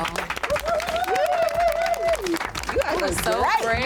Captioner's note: applause